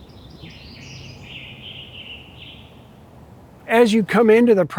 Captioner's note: birds chirping